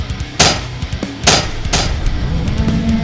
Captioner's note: intense rock music; steps clanking; tentacle beast blares